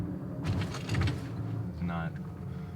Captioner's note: car engine roaring